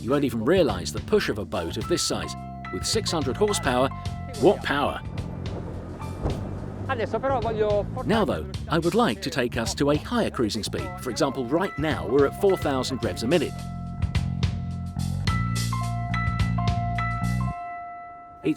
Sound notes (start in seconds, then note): 6.9 foreign language; 14.2 tinkly music